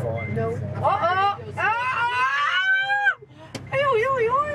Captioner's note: screaming for joy